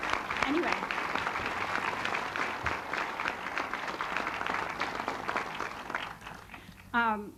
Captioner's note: applause